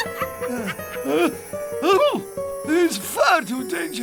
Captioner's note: mystical music; witch cackles; man sneezes